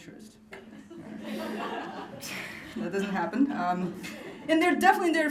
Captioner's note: laughter